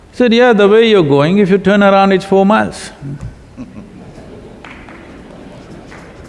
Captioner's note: few laugh/Applaud